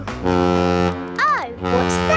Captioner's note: horn bellowing